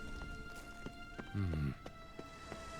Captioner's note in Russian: стон